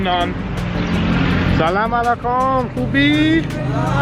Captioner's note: foreign language